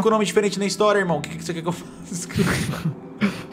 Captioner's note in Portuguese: Risos